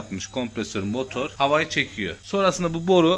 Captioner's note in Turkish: motor